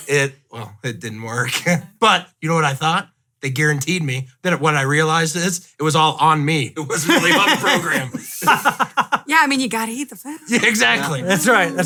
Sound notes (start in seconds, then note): 6.9 laughing